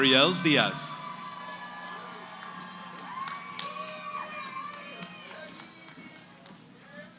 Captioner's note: cheering